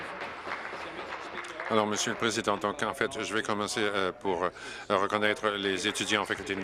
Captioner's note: applause